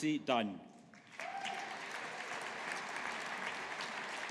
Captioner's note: audience applauding